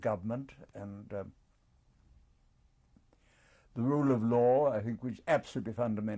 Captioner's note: pauses for 3 seconds